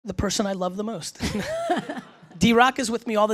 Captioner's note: laughs